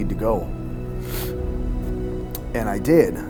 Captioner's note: sniffling